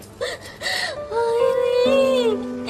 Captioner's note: sobbing